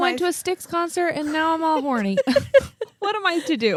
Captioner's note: laugh